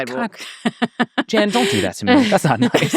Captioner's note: laughing